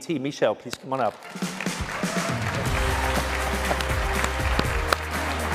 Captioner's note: cheers, applause